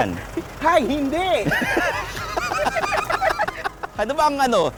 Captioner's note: all laughing